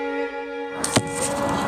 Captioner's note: arrow thumps in target